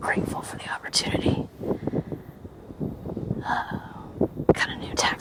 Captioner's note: wind blustering